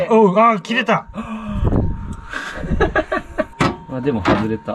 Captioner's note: laugh